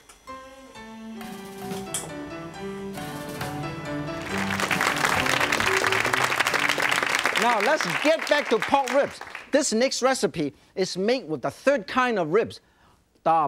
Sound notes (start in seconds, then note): 0.6 traditional music; 3.9 audience claps